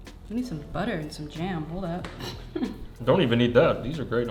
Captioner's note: laughs